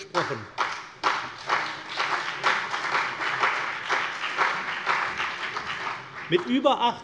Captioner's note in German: Beifall CDU und BÜNDNIS 90/DIE GRÜNEN